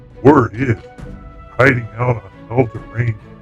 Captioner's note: laughs